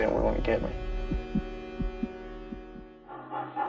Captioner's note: heartbeat